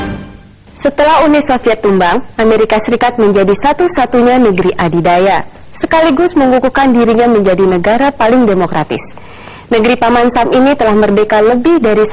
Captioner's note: non-english speech